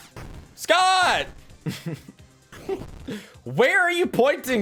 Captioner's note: laughs